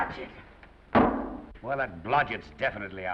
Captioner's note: foot thuds